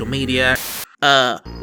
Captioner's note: static